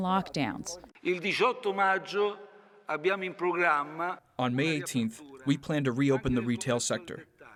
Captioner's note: through translator